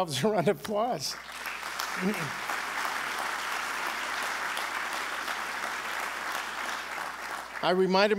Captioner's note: applause